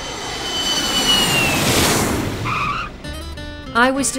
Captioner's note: sound of jet landing